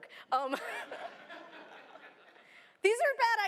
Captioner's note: laughter